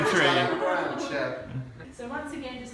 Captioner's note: laughter in background